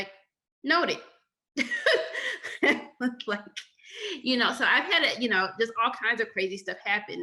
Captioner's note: laughter